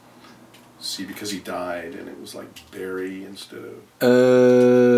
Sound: painful groans from the voices

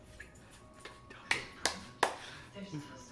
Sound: clapping

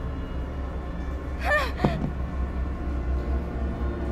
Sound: Brooklyn yelps; phone drops

